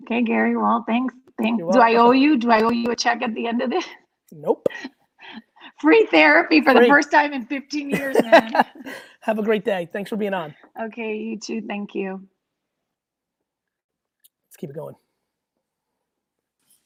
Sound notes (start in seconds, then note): 3.9 laughs